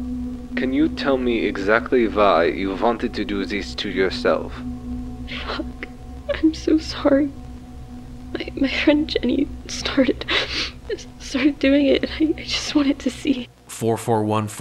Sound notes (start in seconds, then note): 4.2 through tears